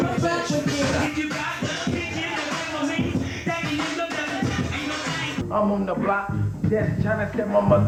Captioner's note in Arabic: ثرثرة الناس